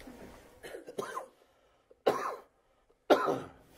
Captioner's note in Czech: Dlouhé ticho